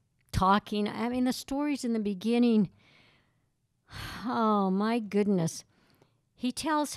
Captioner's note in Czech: povzdech